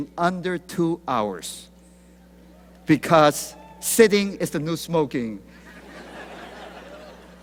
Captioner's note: laughter